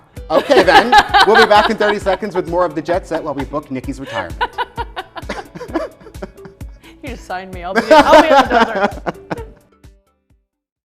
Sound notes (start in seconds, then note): 0.4 laughing; 4.0 both chuckles